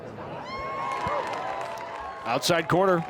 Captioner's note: fans cheer